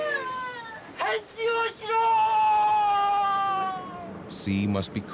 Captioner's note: speaks foreign language